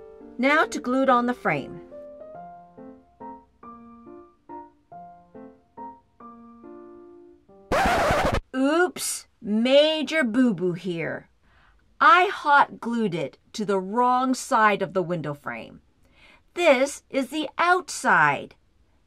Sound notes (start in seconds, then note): 7.7 record scratch